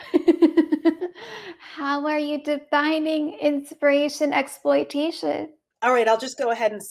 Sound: laughs

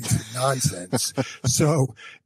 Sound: laughs

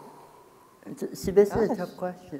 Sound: exhaling deeply

